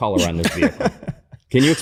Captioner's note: laughter